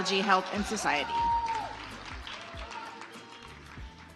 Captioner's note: audience applauds